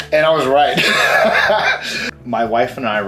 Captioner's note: laughs